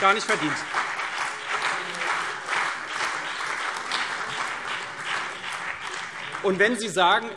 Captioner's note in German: Beifall CDU und vereinzelt BÜNDNIS 90/DIE GRÜNEN